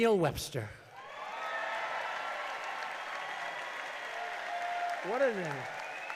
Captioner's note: applause